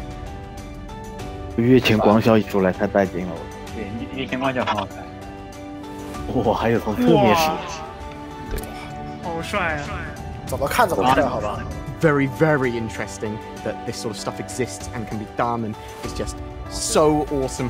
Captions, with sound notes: GUEST 6 The eclipse with the quantum effect is SO amazing. GUEST 7 Yeah, the effect makes it even better. GUEST 8 OMG it can also be viewed from the side. (on the radio) True. GUEST 9 Wow. That is so cool! GUEST 10 It's becoming more impressive every time I watch it! Very very interesting... that this sort of stuff exists and can be done, and it's just so awesome for exploration!